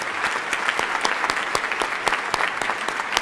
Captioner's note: applause